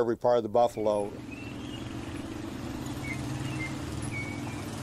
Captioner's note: traffic bustling